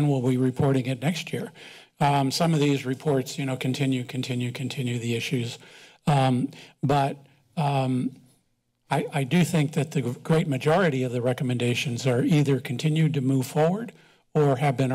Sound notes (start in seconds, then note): none